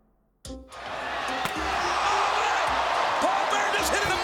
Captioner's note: chair slams; whimsical orchestra music